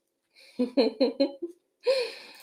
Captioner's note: chuckles